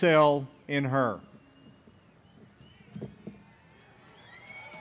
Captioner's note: audience cheers